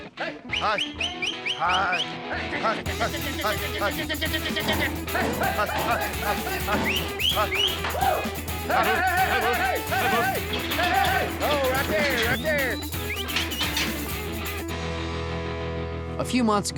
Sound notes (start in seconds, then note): 0.4 whistles; 3.8 shouting, whistling; 6.7 shouting, whistling; 13.1 gate clanking